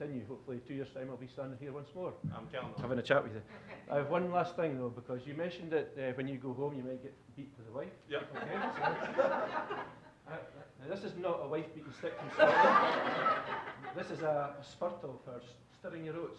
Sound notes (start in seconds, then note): 8.3 audience laughing; 12.0 audience laughing